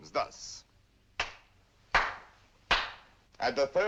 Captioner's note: claps 3 times